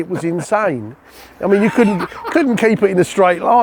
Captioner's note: laughing